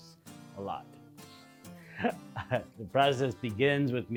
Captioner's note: laughing